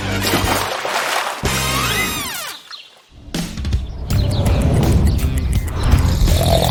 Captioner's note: snoring